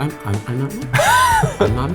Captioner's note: laughs